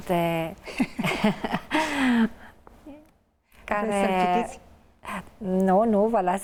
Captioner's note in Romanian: Râsete